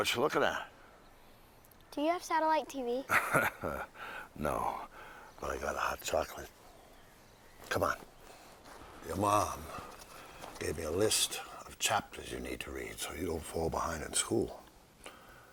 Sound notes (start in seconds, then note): 3.0 chuckles